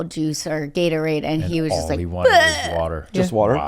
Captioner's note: gags